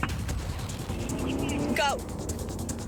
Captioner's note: engine softly hums